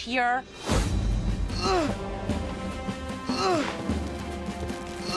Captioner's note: Geoff Straining